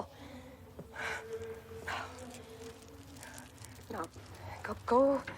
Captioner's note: Marion gasping over rattling prayer beads